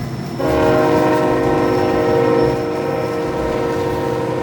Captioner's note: train horn blaring